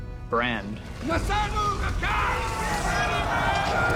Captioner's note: dain shouting in dwarvish